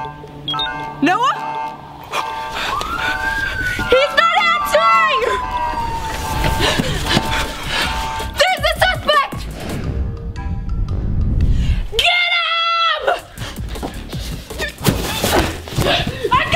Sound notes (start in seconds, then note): 2.0 police siren; 9.9 bouncy music; 13.1 energetic music